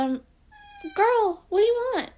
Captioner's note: Scarlett meow